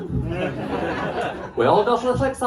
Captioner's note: laughter